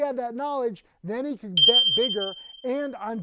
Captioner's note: bell dinging